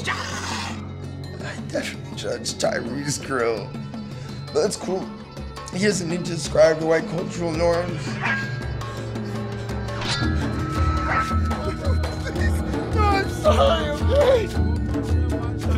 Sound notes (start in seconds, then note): 0.0 man hisses; 8.7 drumming music continues; 10.9 metal dinging